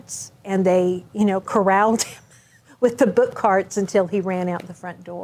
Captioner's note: chuckles